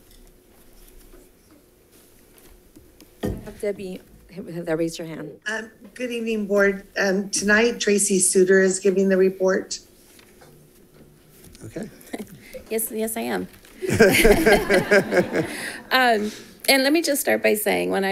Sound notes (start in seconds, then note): 13.8 congregation laughs